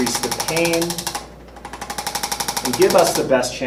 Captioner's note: ArthroStim rattles